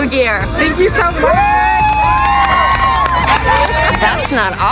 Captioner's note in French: acclamation de la foule